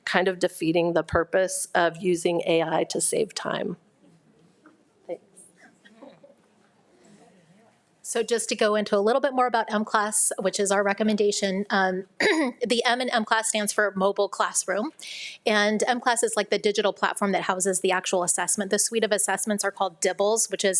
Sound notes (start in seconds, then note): 12.2 clears throat